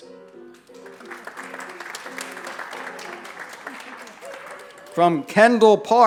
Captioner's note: applause